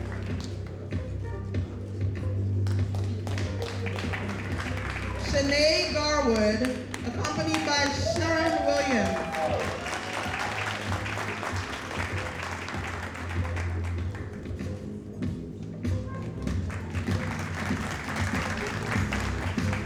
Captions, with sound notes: (audience applauding) Shanee Garwood, accompanied by Sharon Williams. (audience applauding) (audience applauding)